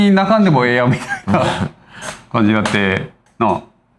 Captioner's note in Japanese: 笑い